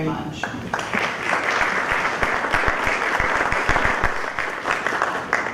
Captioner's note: applause